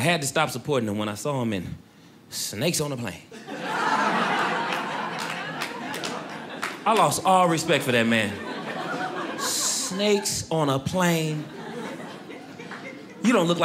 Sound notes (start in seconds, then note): 3.3 audience laughing